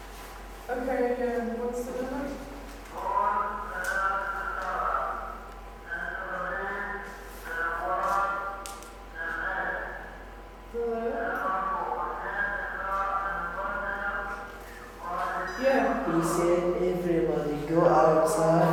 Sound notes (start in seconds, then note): 2.8 soldier on a loudspeaker outside, speaking slowly in Arabic